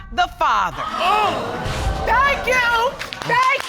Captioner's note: audience exclaiming